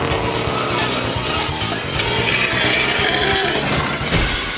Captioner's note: engine revving; metal screeching; crashing